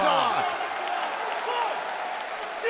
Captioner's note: audience cheering